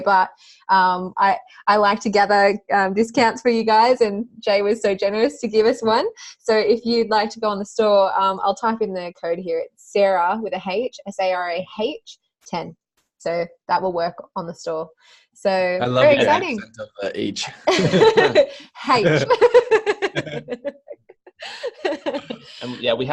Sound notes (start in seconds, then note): 17.4 laughter; 21.2 giggles